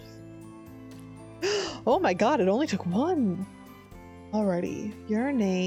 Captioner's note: gasp